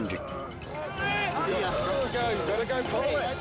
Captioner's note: grunting